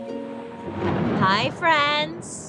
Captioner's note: thunder rumbling